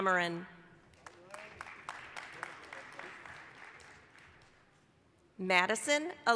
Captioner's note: applause